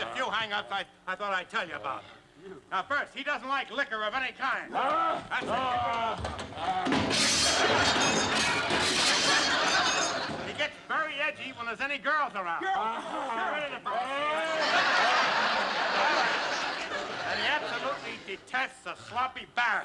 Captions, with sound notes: Just a few hang-ups I thought I'd tell you about. Now, first, he doesn't like liquor of any kind. That's right. Bring it over here. [ Glass shattering ] He gets very edgy when there's any girls around. -Girls! -Get out of here, girls! [ Laughter ] And he absolutely detests a sloppy barrack.